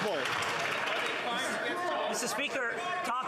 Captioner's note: applause